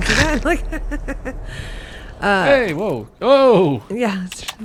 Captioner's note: laughs